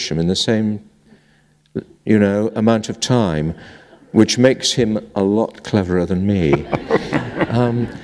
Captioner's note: laughter